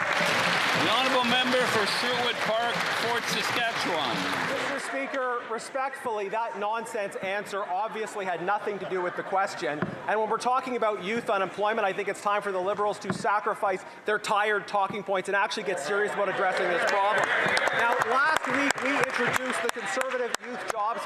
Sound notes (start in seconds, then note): 3.5 some Applause